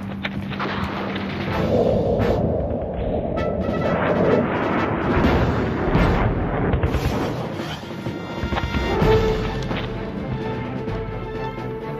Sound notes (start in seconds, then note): 4.6 planes overhead; 7.0 guns firing